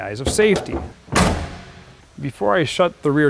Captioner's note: car rear lower tailgate closes